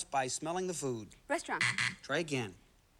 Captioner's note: buzzer